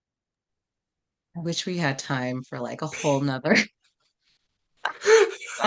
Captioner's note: laugh